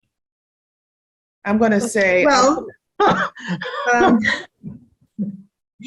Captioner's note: laughing